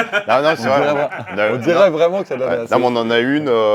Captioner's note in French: rires